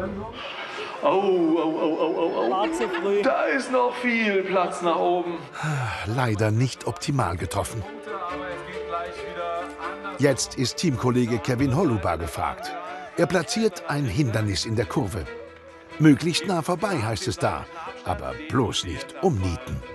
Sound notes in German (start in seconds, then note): 5.5 seufzt; 8.0 Spannungsvolle Musik